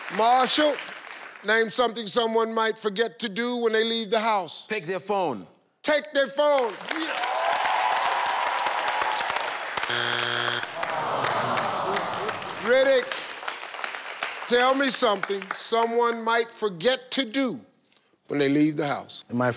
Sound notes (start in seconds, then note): 6.8 audience cheers